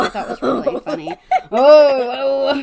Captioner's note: laughs